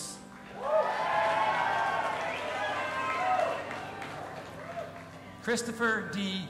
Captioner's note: audience applauding and cheering